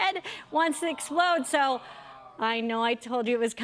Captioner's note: audience "Awws"